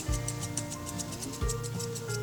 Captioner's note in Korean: 가위질 소리